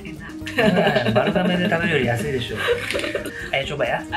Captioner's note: laughs